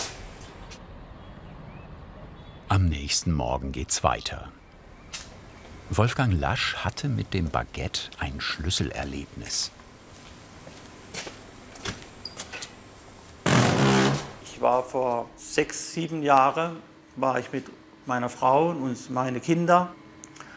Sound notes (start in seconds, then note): 13.4 loud creaking